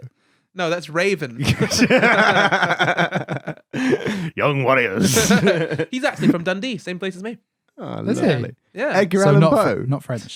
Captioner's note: laughing